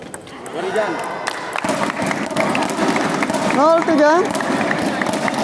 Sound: applause

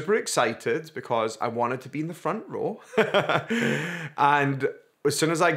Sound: laughs

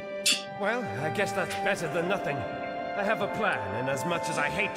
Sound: scoffs

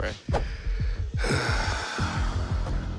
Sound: sighs

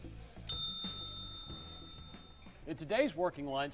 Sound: bell dings

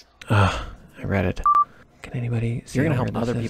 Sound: short beeps

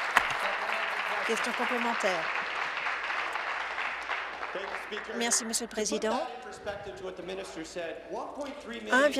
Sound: applause

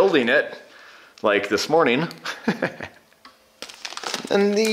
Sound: laughs

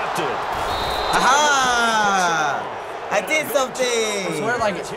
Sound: whistle blows

